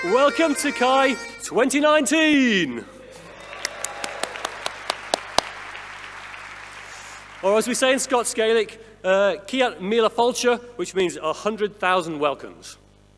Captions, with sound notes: - Welcome to CHI 2019! (audience applauding) Or as we say in Scots Gaelic (speaking in foreign language), which means a 100,000 welcomes.